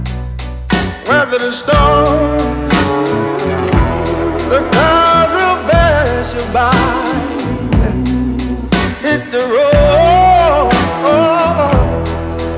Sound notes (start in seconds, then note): 3.3 ooooh; 7.8 ooooh